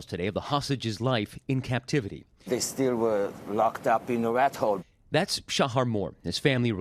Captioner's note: cheers